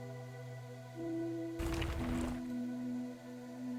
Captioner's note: gravel sounds